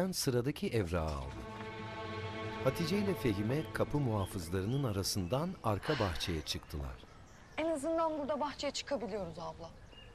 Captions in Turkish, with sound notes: (Kuş cıvıltısı sesleri) (Nefes sesi) En azından burada bahçeye çıkabiliyoruz abla.